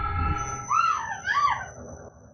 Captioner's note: crying; foreboding music